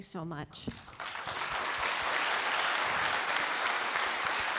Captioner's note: audience applauding